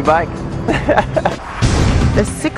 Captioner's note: laughs